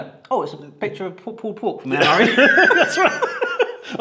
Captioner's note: laughs